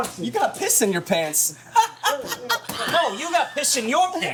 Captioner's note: laughs